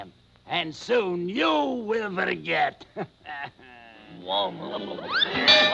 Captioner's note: chuckling